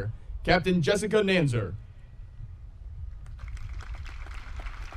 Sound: audience applauding

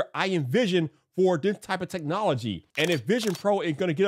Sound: camera shutter clicks

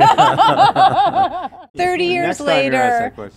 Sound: laughs

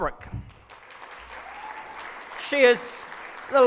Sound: audience claps

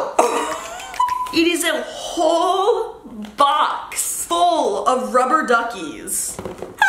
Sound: laughs

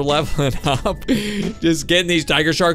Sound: laughing

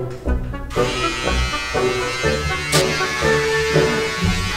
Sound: clippers buzzing

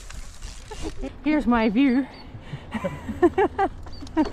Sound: laughing

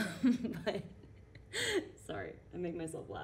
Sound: giggling

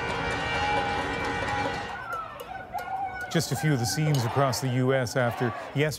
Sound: horns honking; cheers and Applause

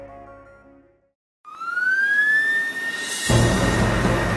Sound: siren wails; dramatic music plays

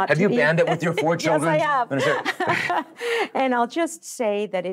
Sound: laughs

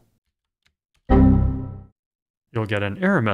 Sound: error sound

